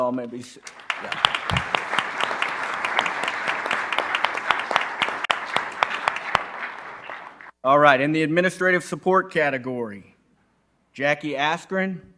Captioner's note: applause